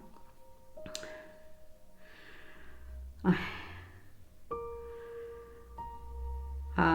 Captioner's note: sad, distressed breathing